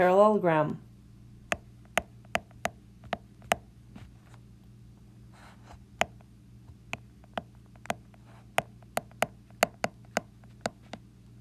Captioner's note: tapping sounds